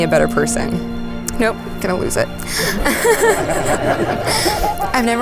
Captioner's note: laughs